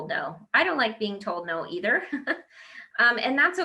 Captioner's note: laughs